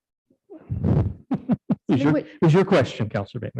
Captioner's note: laughs